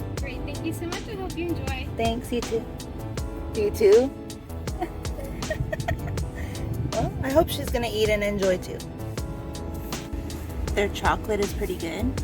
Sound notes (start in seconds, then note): 4.7 laughs